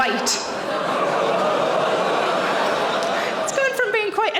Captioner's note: audience exclaiming